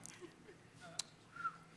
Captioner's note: whistles